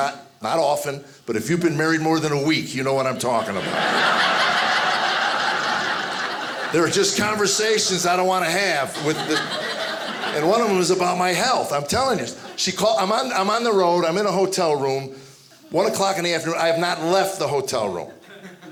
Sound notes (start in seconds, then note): 3.1 audience laughing